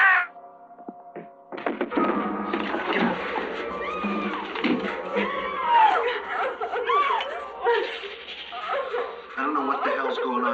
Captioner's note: screaming